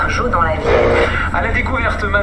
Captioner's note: radio noise